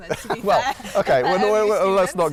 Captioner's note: laugh